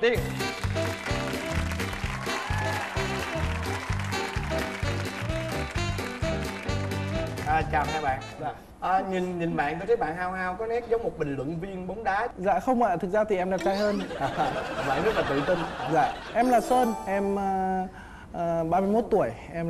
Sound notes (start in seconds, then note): 0.2 applause; 13.6 laughing